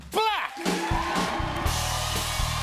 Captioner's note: cheers and applause